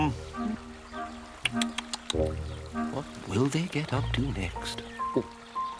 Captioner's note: tuts